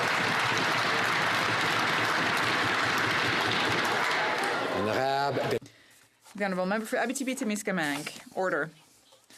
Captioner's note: some Applause